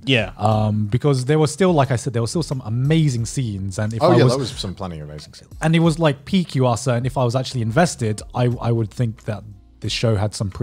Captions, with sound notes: - Yeah. - Because there were still, like I said, there was still some amazing scenes. - Oh yes, there was some plenty of amazing scenes. - And he was like (murmurs) if I was actually invested, I would think that the show had some